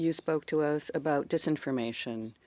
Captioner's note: speaking French